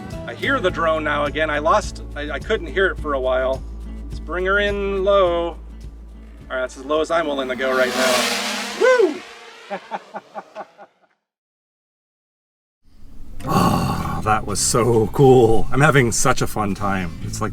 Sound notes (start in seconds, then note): 6.8 drone buzzes close; 9.7 laughter